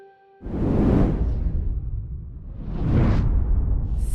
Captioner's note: air whooshing